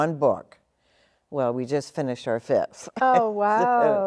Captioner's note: chuckles